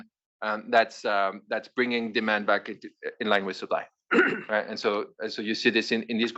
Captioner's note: cough